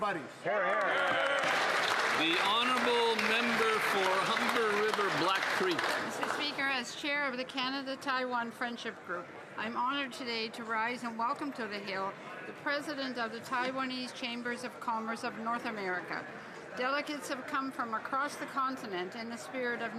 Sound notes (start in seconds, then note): 6.7 some Applause